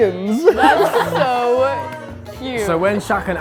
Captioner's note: group laughing